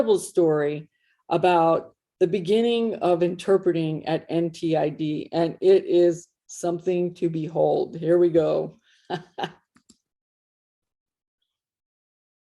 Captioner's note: ha, ha